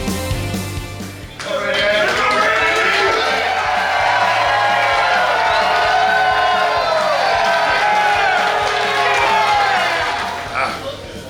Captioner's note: cheering & Clapping